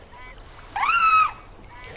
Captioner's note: angry buzzing